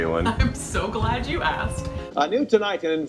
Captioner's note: giggles